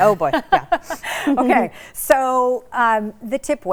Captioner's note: laughs